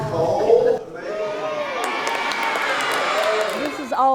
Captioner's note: cheering